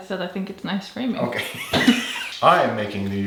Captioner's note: laughing